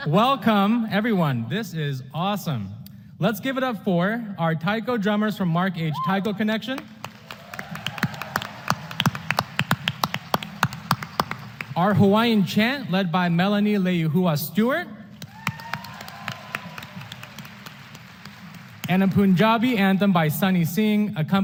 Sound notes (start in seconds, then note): 6.7 applause; 15.2 applause